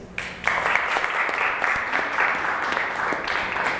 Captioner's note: applause